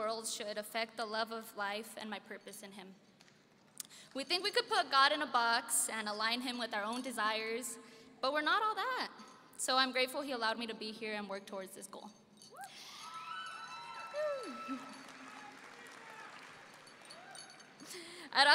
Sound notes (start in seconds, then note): 12.8 cheering and laughing; 12.8 audience cheering